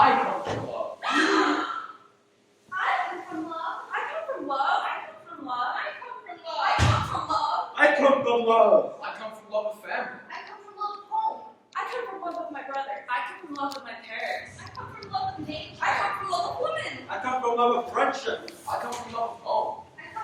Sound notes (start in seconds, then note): 1.1 gasps